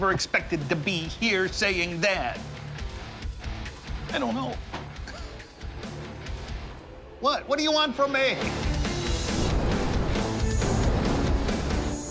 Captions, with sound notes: to be here, saying that. I don't know. [laughs] What? What do you want from me? [symphonic metal music]